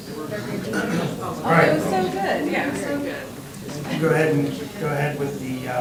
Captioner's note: crowd talking indistinctly